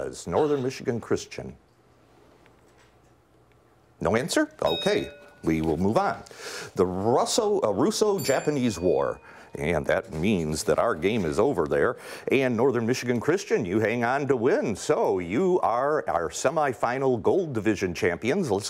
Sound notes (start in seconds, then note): 4.6 bell rings; 8.1 bell rings